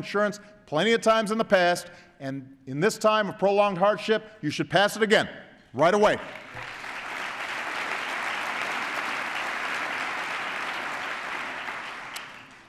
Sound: applause

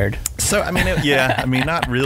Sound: laughing

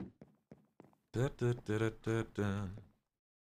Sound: hums

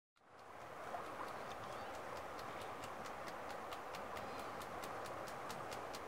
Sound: river flowing

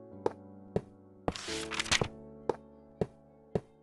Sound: more page flipping sounds

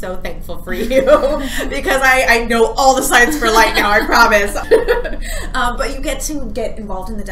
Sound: laughs

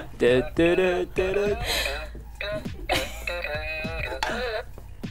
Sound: laughs; hums; laughs

